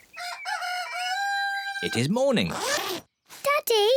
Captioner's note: cockerel crows